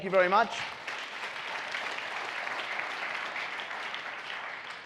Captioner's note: audience applauds